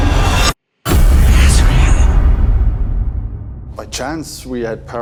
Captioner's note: ominous music; eerie whispering